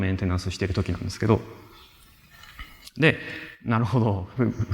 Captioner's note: laughter